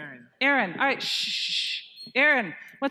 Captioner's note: shushing